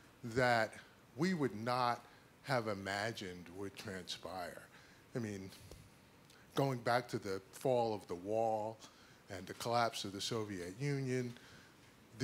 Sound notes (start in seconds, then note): none